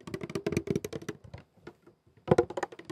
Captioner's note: tapping the diffuser base